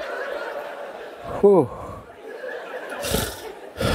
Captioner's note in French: met la main sur sa hanche et rit en même temps; expire longuement